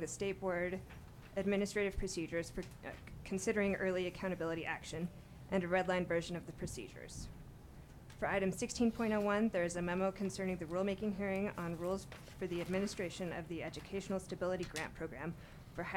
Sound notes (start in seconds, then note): none